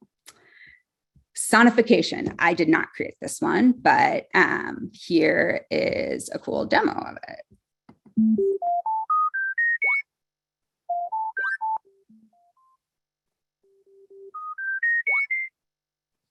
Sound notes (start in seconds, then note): 3.7 beeping sounds raising in tone